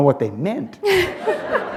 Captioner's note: laughter